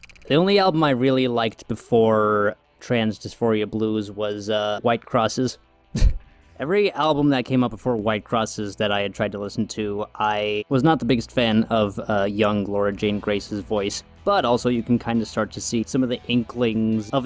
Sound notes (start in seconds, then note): 0.0 echoed mouth click; 5.9 chuckles